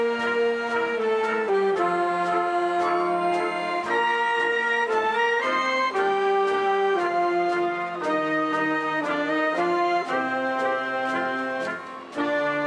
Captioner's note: applause